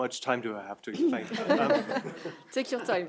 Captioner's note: everyone laughing